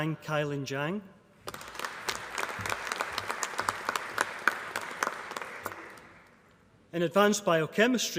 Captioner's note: applause